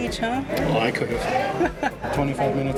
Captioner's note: laughs